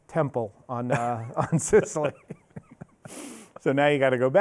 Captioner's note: both laughing